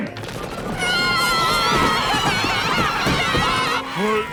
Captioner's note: yelling